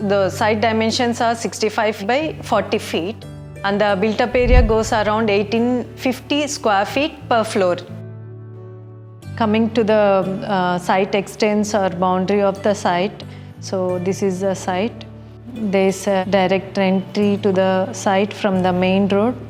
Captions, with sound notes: The site dimensions are 65 ft by 40 ft. And, the built-up area is around 1850 sq. ft. per floor. And, the built-up area is around 1850 sq. ft. per floor. [whoosh] And, the built-up area is around 1850 sq. ft. per floor. Talking about the site's extent and boundaries, this is the site. There's a direct entry to the site from the main road.